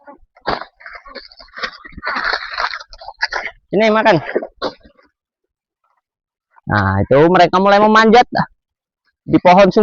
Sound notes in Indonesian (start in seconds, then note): 1.5 tertawa